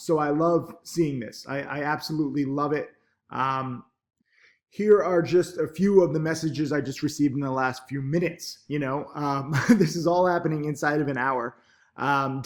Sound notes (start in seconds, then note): 9.2 chuckles